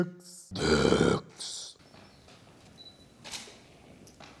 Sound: guttural

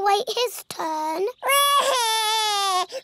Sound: cries

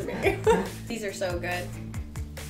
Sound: laughs

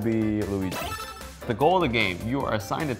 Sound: beep

